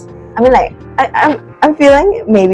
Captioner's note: stutters